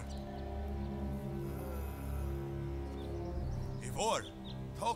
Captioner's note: groaning